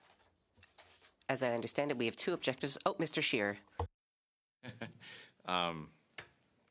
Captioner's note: laughter